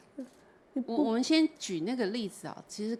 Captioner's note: Mandarin